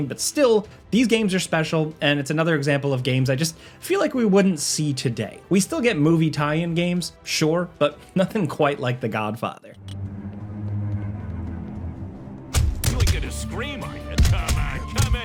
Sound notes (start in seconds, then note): 9.7 tense music; 12.5 blows thudding